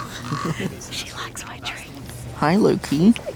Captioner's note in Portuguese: sussurrando